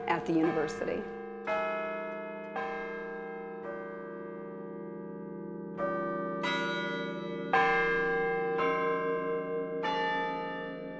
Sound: bells ringing

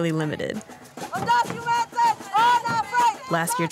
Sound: yelling in foreign language

